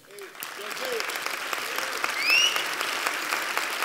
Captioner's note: applause